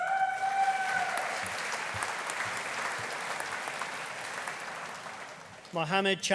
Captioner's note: audience cheering; audience applauding